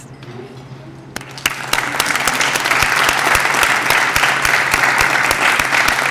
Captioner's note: applause